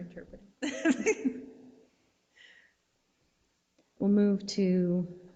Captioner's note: board member laughs